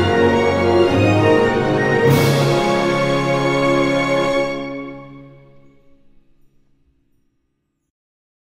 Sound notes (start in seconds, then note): 5.9 magical twinkling